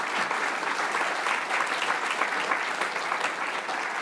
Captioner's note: applause